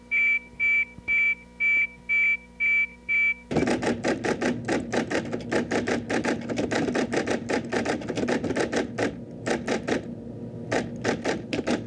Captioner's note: type writing typing out letters